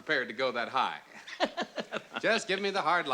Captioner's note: laughs